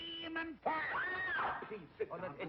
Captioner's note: screams